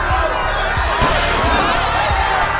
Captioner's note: gunshot